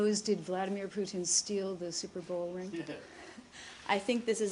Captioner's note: laughter